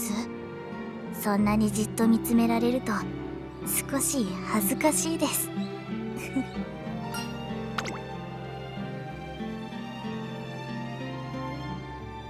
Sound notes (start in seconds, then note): 6.2 giggle